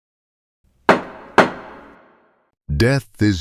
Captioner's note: gavel bangs